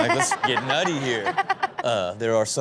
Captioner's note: audience and Chanel laugh